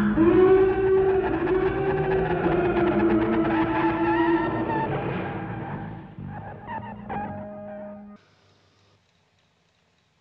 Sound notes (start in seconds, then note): 0.5 electrobiological chattering; 5.3 alarms and creature noises die down